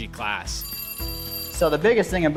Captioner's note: phone rings